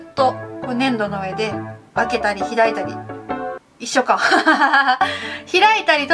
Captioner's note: laughs